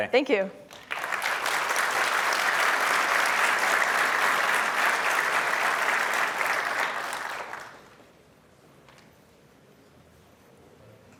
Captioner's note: applause